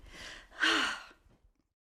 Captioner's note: sigh